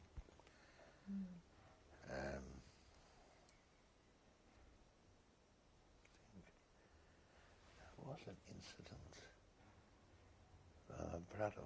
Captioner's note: pauses for 7 seconds